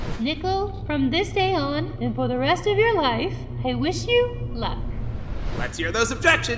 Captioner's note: none